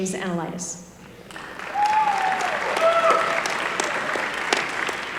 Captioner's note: applause